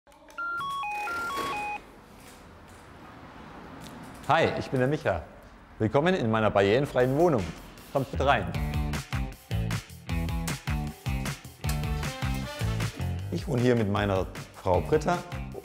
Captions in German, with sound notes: (Piepstöne) Hi, ich bin der Micha. Willkommen in meiner barrierefreien Wohnung. Kommt rein. (Lässige Musik) Ich wohn hier mit meiner Frau Britta